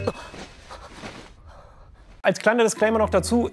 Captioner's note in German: Verträumte Musik; Erschrockenes Luftholen